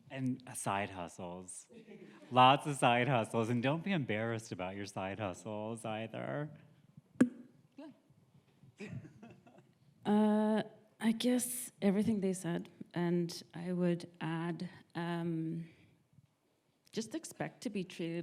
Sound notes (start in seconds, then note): 8.8 laughs